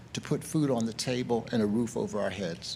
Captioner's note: none